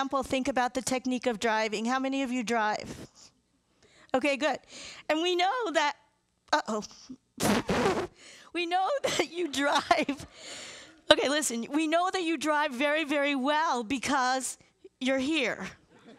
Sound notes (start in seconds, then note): 7.4 blowing; 10.3 laughing